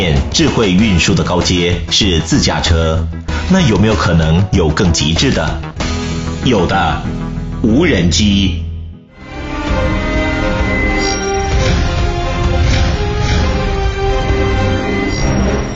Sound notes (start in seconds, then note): 11.6 drone